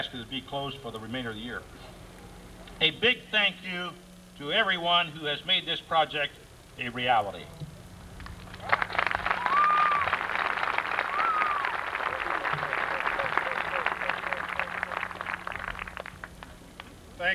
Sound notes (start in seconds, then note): 8.4 applause